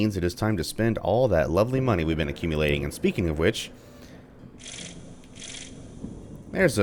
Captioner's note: thunder